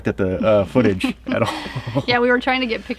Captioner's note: laughs